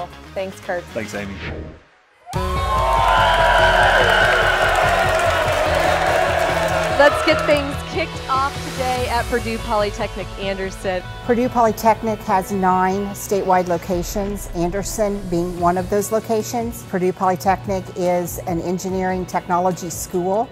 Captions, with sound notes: -Thanks, Curt. -Thanks, Amy. -[crowd cheering] -[uplifting music begins] Let's get things kicked off today at Purdue Polytechnic Anderson. Purdue Polytechnic has nine statewide locations, Anderson being one of those locations. Purdue Polytechnic is an engineering technology school,